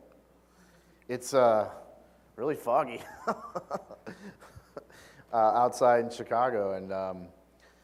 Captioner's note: laugh